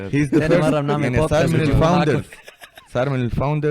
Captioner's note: laughs